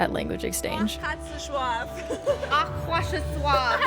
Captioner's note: speaking in foreign language